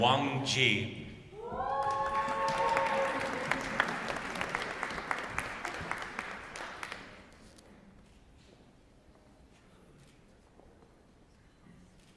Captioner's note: applause